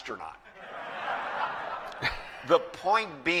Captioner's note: laughter